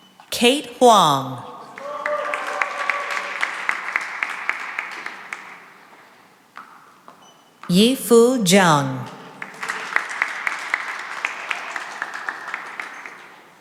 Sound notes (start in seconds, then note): 1.6 cheering and applause; 8.6 applause